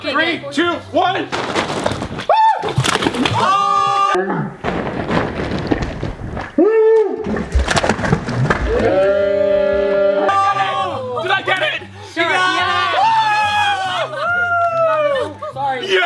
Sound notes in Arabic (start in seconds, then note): 3.3 جميع يصيح; 3.4 يصرخ; 6.7 يصرخ; 8.7 الجميع يصيح; 12.3 هتاف